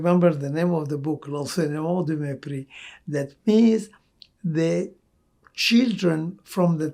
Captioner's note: french